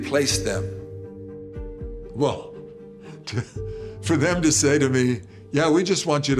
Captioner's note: chuckles